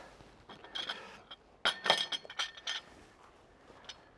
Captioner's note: dish clanking